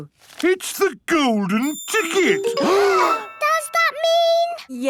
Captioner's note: gasps